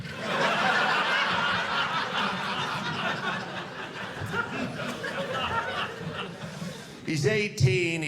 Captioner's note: audience laughing